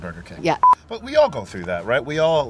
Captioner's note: camera beeps